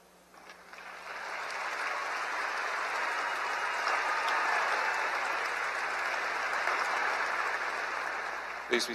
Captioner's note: applause